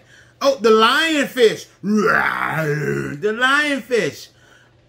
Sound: roars

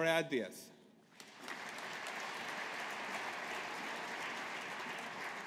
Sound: audience applauding

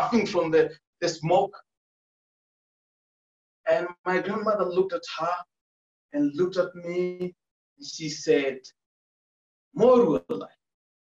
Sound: speaking Maasai

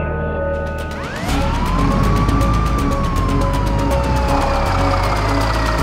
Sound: tense music playing; siren wailing

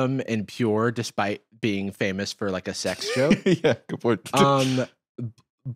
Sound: laughing

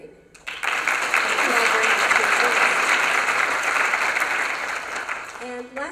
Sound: applause

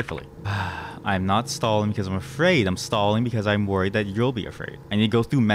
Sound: sigh

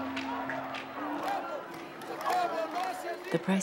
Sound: chanting in a foreign language

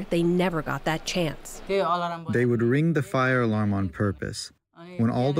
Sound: through translator

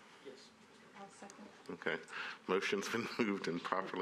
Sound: laughter

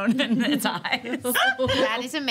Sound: laughing

